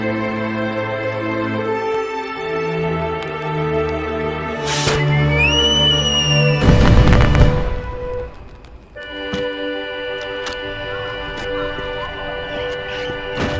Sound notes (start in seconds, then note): 6.5 fireworks pop